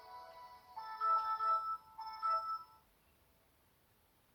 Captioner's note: Windows Login sounds